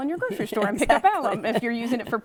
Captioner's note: chuckles